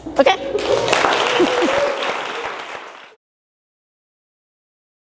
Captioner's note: audience applauding